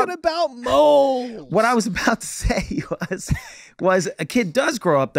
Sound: laughing

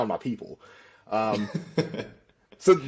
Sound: laughter

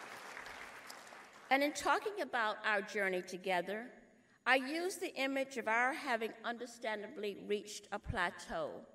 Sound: applause

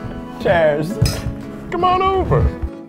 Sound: clink

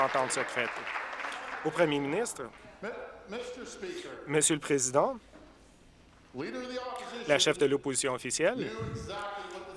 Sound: applause

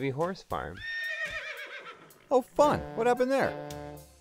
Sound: horse whinnies

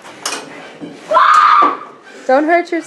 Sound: groans; child screaming

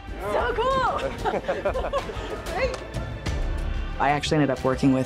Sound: cheerful laughing

